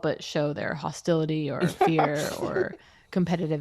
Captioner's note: laughter